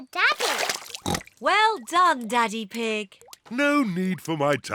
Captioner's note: oinks